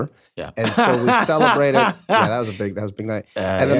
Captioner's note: laughs